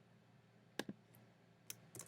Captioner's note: click